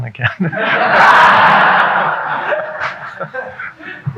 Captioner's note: audience laughing